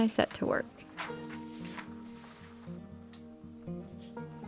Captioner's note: paper rustling